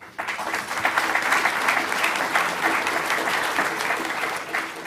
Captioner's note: audience applauding